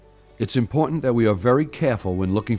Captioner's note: voiceover